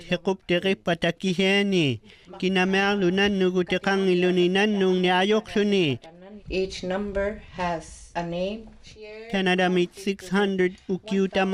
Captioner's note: speaking inuktitut